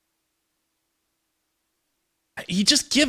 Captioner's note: silence